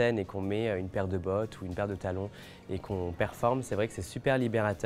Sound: speaking French

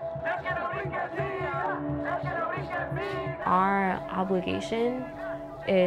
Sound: chanting in Spanish

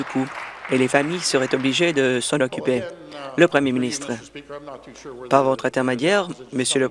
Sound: applause

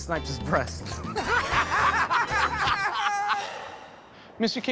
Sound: laughter

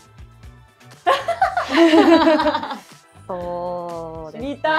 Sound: laughs

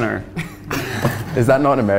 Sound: everyone laughs

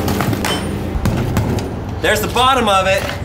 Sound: crowbar banging

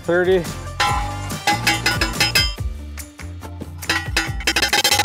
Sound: post pounder clanging

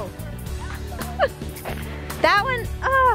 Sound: laughs

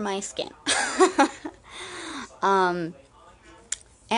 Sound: chuckles

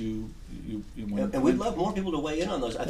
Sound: voiceover

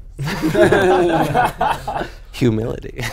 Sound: laughing

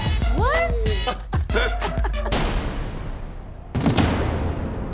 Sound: all laugh

